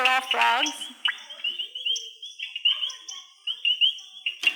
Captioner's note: frogs croaking